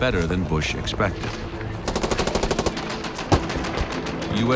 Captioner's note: machine gun fire